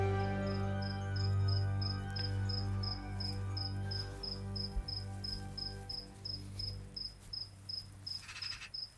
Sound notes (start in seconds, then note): 3.2 crickets chirping